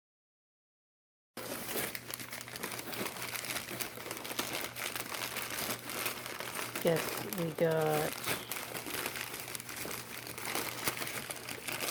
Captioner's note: crinkling of wrapping paper